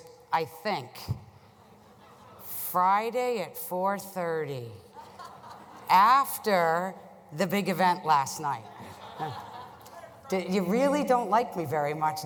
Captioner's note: laughter